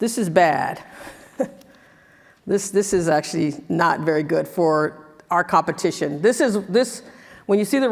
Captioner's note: laugh